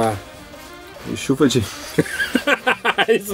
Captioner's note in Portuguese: riso